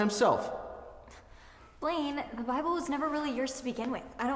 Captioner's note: scoffs